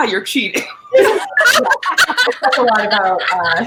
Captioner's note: all laughing